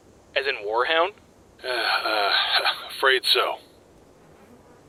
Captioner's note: sigh; chuckle